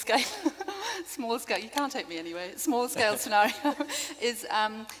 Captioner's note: laughing